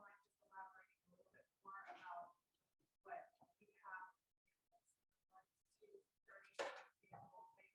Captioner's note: voice muffling